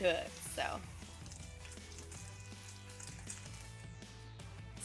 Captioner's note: bacon sizzling